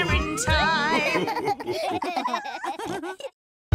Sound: laughter

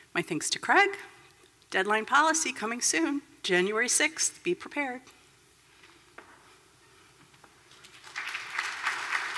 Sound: applause

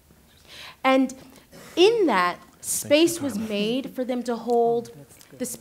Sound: whispering continues

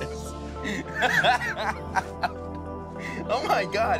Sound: laughter

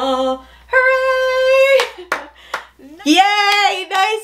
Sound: hands clapping

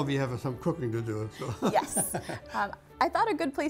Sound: laughs

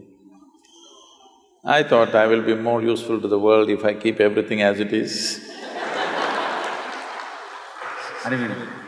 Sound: laughter/Applause

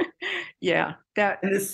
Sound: laughter

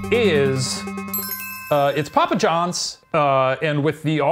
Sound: ding

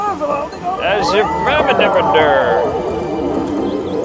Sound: drunken mumbling

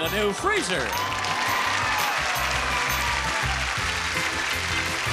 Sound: audience applauding

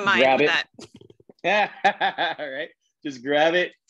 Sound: laughs

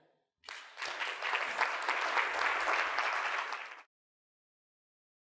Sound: audience applauding

